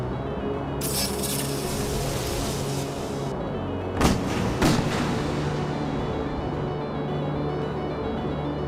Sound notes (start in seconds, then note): 4.0 gun firing